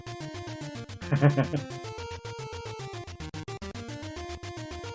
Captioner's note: chuckles